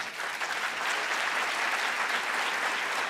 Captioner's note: the audience applauds